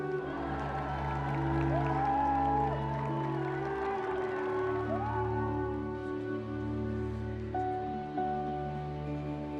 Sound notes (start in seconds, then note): 2.0 crowd cheering; 6.7 gentle music